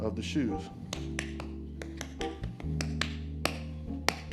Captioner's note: tapping